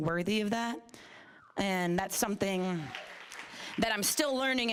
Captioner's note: applause